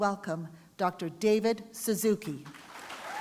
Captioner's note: applause